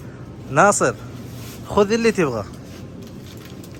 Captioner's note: Arabic